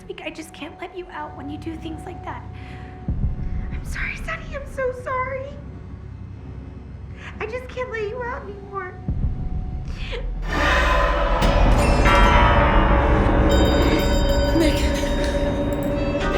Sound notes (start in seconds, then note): 10.4 suspenseful music; 13.5 alarm ringing